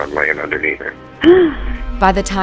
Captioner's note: gasps